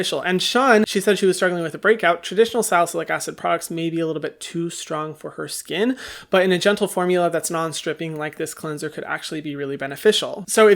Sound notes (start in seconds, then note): none